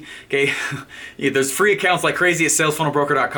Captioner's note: laughing